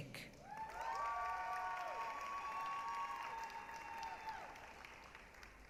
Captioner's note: applause, cheering